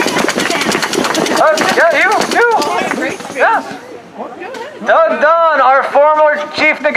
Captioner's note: applause